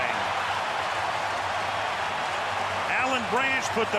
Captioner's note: cheering